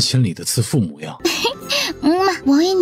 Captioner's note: chuckles